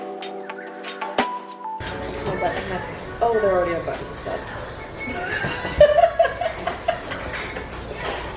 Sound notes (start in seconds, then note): 5.0 laughing